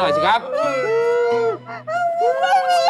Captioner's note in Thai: เสียงร้อง